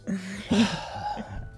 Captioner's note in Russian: вздыхает